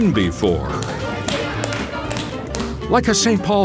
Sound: clapping

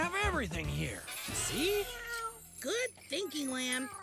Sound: meowing

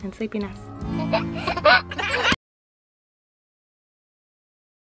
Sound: laughing

